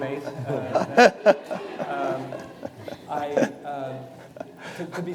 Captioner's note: audience laughing